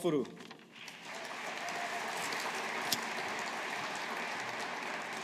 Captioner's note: audience applauding